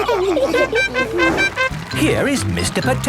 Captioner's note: all laughing; horn tooting